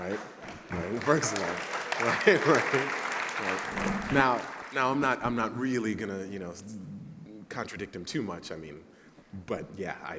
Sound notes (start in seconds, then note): 2.0 laughter; 6.0 applause